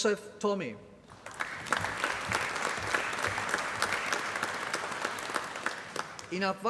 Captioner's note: applause